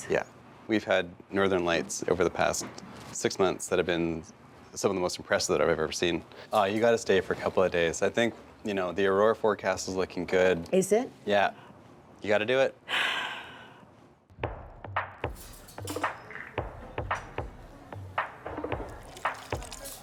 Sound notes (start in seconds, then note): 12.9 sighs; 14.3 slow rhythmic music